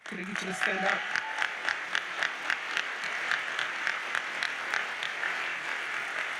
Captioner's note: audience cheers and applauds